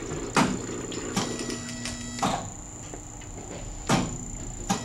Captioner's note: high buzz; high buzz